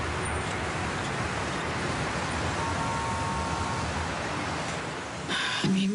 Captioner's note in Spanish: Ruidos del tráfico